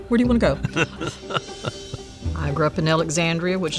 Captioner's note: laughs